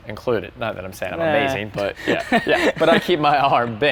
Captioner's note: chuckles